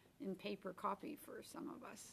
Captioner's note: speaking french